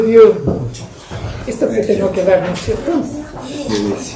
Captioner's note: speaking spanish